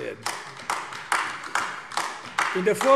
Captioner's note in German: Beifall AfD